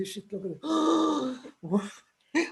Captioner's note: gasps